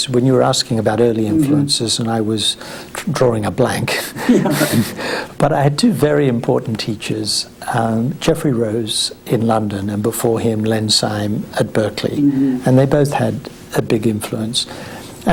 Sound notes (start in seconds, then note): 4.1 both laugh